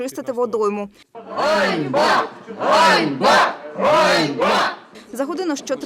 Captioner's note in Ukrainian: Кричать гуртом